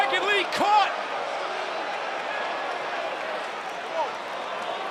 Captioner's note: audience cheering